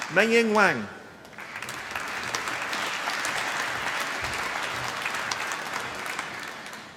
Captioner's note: applause